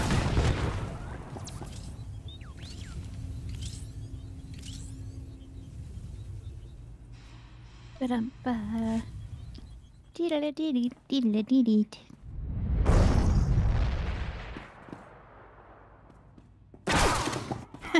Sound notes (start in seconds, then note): 0.0 gunshots; 7.9 humming; 10.1 laughing